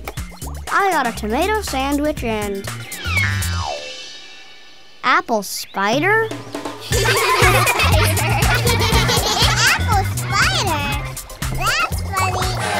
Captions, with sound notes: I got a tomato sandwich and... apple spider? [laughing] - An apple spider? - That's funny.